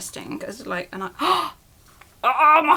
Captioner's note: gasp